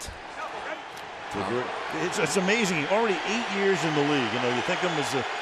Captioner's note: crowd cheering